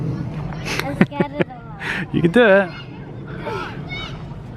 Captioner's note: laughs